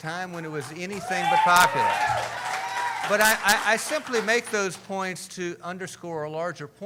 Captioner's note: cheering